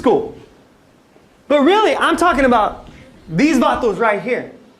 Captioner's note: non-english speech